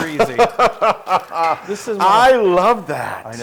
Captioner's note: laugh